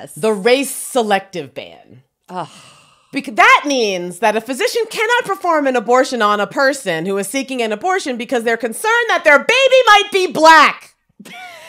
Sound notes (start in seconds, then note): 2.3 sighs; 11.2 laughs